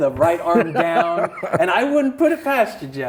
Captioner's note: laughs